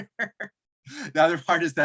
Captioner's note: chuckle